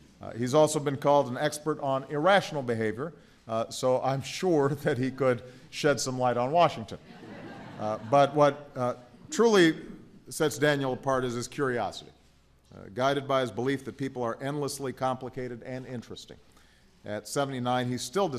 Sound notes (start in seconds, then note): 7.0 laughter